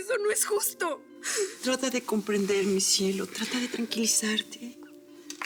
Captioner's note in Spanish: solloza